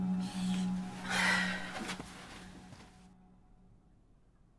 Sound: Leanna sighs

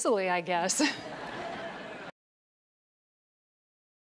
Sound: audience laughs

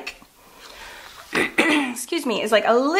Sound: clears throat

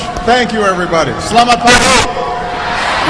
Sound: non-english speech

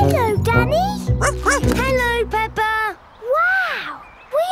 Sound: snorts; barks

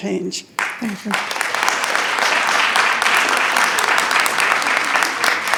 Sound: attendees clapping

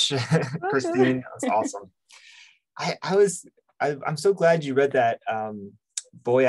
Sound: chuckles

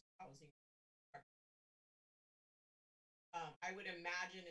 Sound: audio cuts

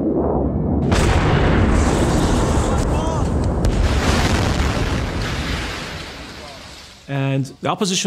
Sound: explosions

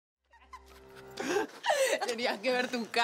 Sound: laughs

